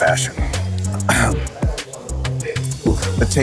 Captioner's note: clears throat